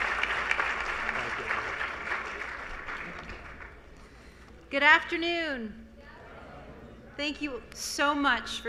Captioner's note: applause